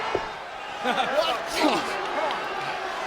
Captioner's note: King chuckles